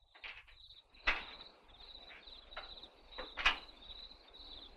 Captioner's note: crickets chirping